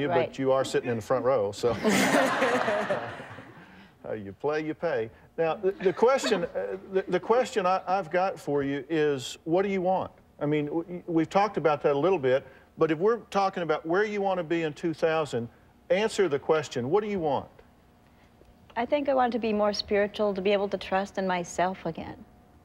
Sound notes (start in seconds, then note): 1.7 all laughing